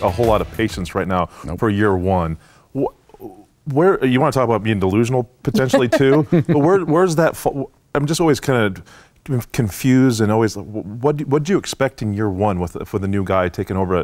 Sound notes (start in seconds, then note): 5.6 laughter